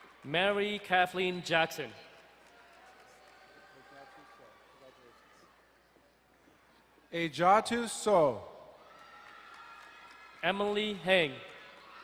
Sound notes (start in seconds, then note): 2.6 distant cheering; 8.8 distant cheering